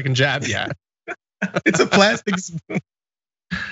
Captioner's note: laugh